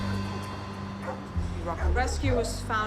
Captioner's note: dogs barking